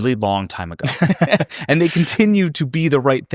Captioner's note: both laughing